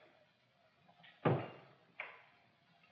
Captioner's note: table thud; trapdoor click